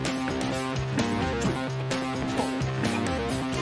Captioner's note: footsteps approaching